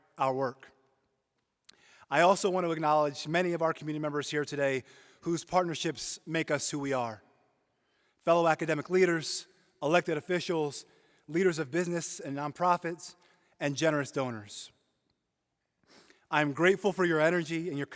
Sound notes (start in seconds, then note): none